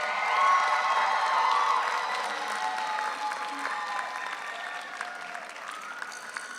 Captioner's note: audience applauds; audience cheers